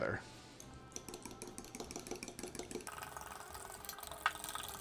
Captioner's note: fork rattles